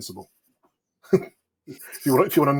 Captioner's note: chuckles